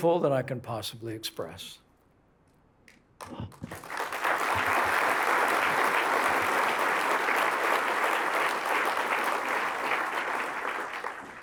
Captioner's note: applause